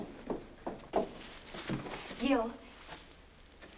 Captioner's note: foot Steps